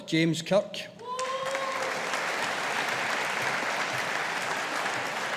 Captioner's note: audience applauding